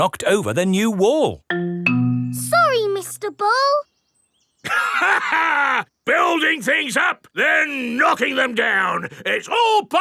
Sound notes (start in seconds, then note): 4.6 laughs